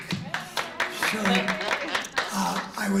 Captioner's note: applause